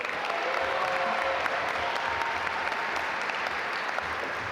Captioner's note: audience applaud